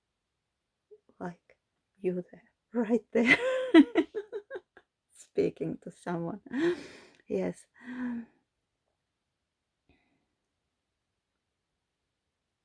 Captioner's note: laughter